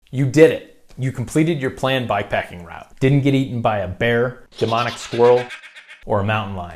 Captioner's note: demonic laughing